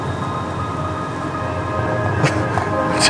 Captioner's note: laughing